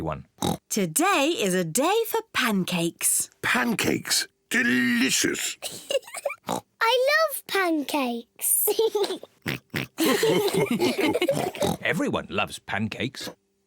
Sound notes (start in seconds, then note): 0.4 oinks; 5.8 giggles and oinks; 9.9 all laugh; 11.1 mummy pig oinks; 13.2 oinks